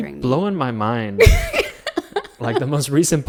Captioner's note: laughs